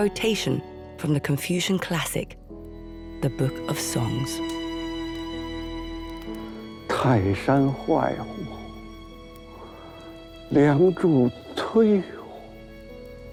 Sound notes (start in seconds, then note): 7.2 hablan un idioma extranjero